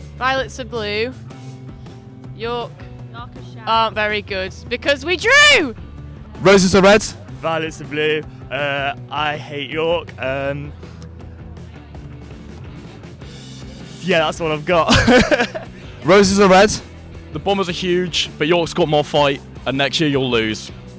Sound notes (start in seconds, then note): 14.8 laughter